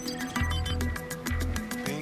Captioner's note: computer trilling; computer beeps